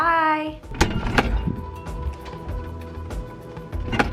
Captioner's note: refrigerator door opening